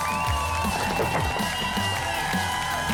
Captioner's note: thud; applause and cheering